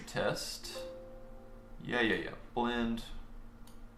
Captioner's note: dinging